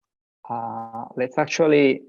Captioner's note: audio cutting out